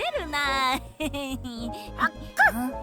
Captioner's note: giggling